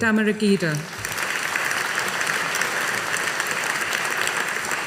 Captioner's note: audience applauding